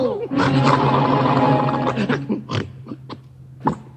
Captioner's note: dog growls